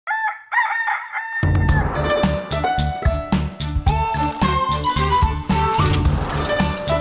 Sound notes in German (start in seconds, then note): 0.0 Hahn kräht; 1.4 Titelmelodie